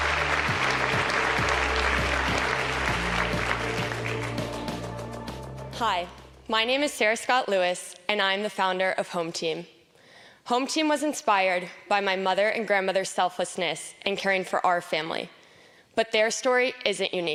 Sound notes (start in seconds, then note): 7.3 applause